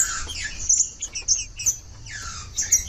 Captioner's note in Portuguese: trinca ferro cantando